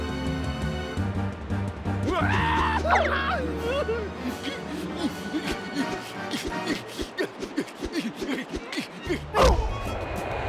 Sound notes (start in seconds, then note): 2.0 screams; 4.3 grunting; 9.4 thud